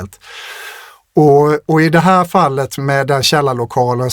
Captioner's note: gasps; sighs